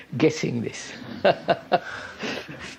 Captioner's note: laughs